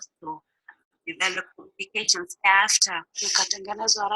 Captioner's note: speaking foreign language